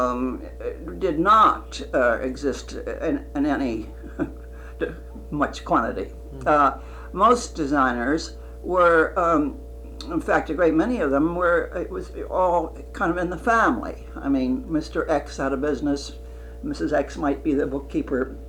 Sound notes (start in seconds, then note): 3.8 laughs